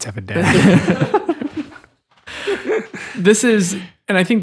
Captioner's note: all laughing